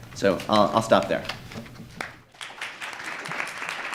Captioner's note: applause